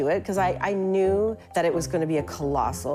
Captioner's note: none